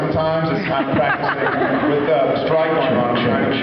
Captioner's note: laughs